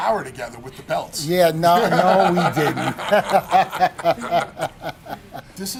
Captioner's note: laugh